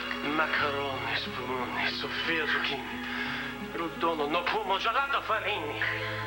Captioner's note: italian accent